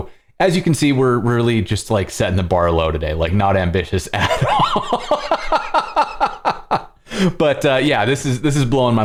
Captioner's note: laughter